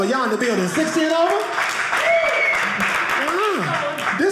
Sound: audience cheering

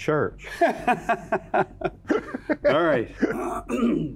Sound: laughing

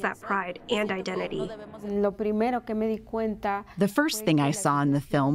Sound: through translator

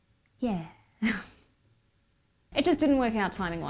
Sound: sighs

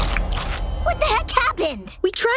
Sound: none

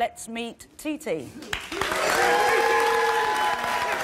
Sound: applause

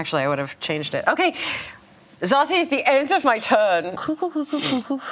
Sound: imitates German accent

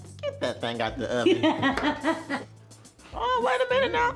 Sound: Tia laughs

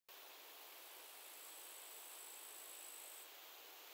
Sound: crickets

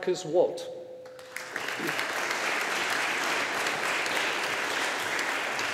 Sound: audience applauding

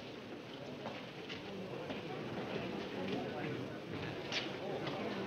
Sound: people chattering

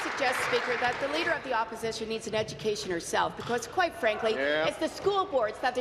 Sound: applause

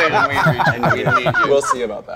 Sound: group laughing

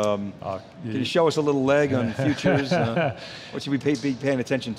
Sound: laughing

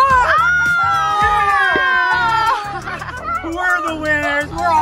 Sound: cheers

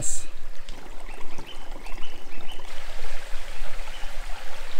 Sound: water burbling

